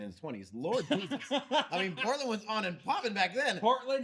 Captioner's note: laughing